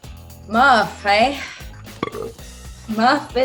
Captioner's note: Murf burping